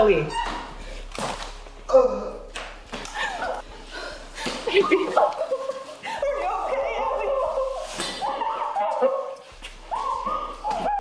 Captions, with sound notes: (Alli squeals) (gun fires) Without hittin' the girl. (Henchman groans) Why are your guns pointed at me? (Heather and Alli crying) There's no way you'll shoot me without hitting the girl. I mean, she's so skinny. But still, who would risk taking that shot?